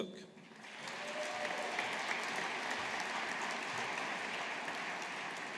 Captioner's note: audience applauding